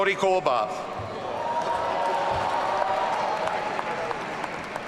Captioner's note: audience cheering